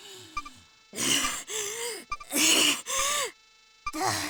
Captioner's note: wheezing